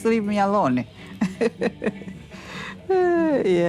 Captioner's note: chuckles, sighs; chuckles